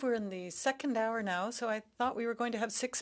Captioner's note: speaking French